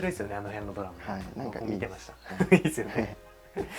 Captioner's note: laughs